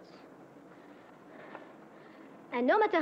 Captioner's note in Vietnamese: Thở mạnh